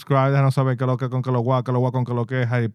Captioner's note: speaking In Foreign Language